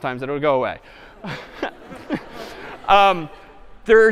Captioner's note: laughter